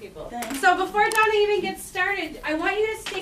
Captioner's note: voiceover